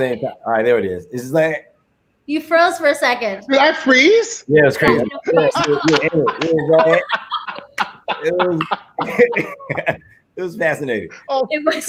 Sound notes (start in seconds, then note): 4.8 all laughing